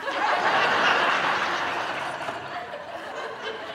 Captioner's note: audience laughing